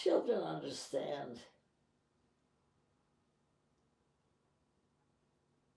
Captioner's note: pauses 6 seconds